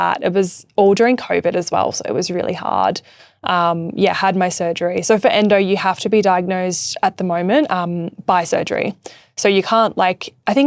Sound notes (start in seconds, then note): none